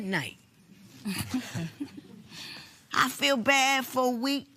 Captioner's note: both chuckle